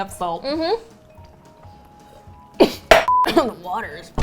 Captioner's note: chokes